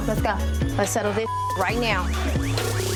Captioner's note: beep